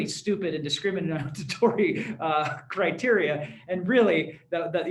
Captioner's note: laughter